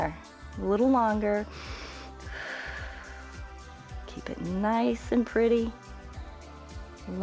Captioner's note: inhales and exhales